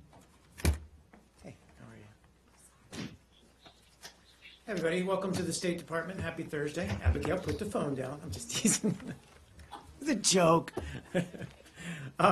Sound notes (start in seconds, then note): 8.5 laughter; 10.6 laughter